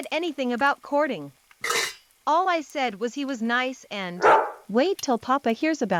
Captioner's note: bark of dog cuts her off